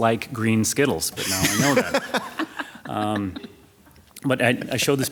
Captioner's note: laughter